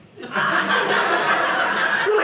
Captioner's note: audience laughing